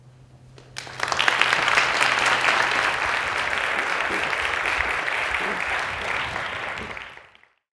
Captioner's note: applause